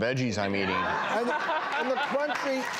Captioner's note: audience laughing